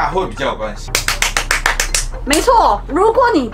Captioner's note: applause